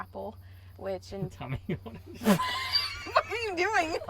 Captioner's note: laughs